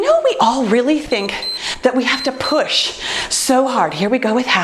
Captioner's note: timer beeps